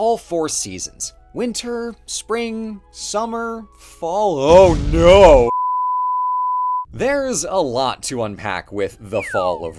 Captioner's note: beep, cut to pain